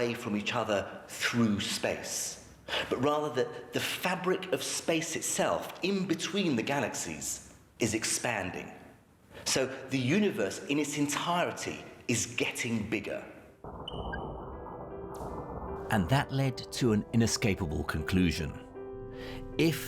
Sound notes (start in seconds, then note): 14.1 soft gentle piano music; 14.3 undulating whirs echo